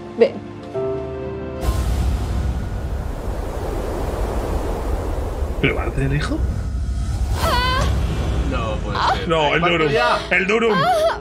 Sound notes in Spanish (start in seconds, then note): 7.4 grita